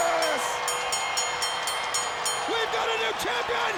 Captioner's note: bell rings